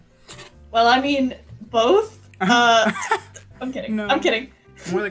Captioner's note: laughs